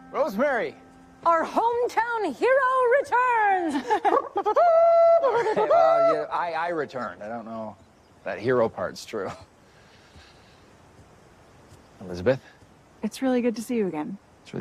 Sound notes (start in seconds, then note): 4.0 makes trumpet noises